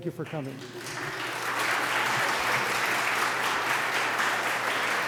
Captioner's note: applause